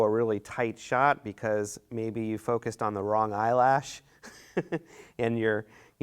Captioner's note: laughs